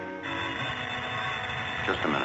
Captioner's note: phone ringing